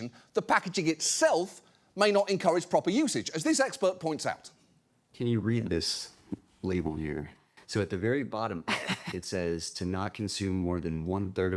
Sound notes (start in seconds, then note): 8.7 laughs